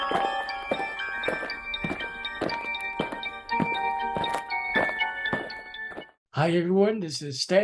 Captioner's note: eerie music; aliens marching